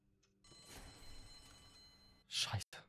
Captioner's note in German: Schulklingeln